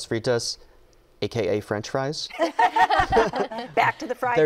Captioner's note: laughter